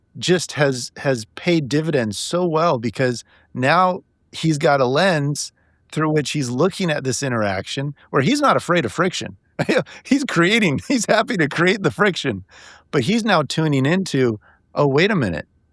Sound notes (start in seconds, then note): 9.6 laughing